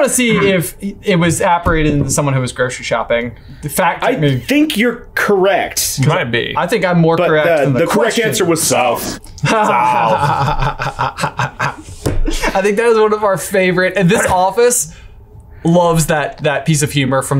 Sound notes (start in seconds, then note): 9.4 laughing